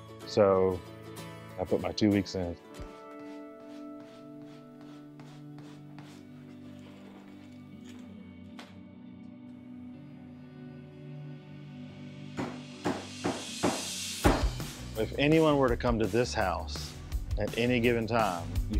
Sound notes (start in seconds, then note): 2.7 materials rubbing; 12.4 hammer pounding; 15.1 upbeat music